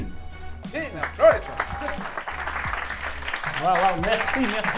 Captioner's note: applause